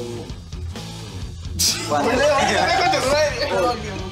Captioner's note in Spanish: Risas